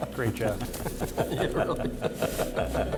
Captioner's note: laughter